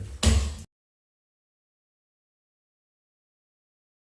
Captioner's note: gavel bangs loudly